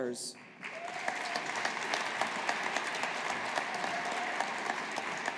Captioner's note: audience applauding